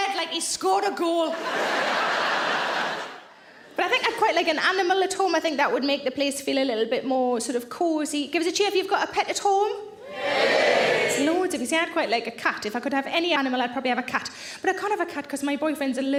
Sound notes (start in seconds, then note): 1.3 audience laughs; 10.0 audience cheers